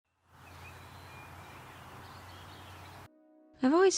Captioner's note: birds chirping happily